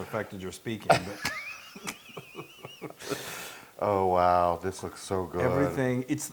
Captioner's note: laugh